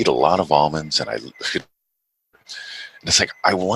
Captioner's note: chuckles